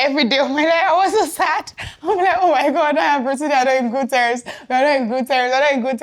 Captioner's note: laughs